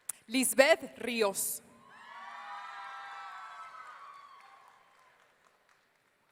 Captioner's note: audience cheering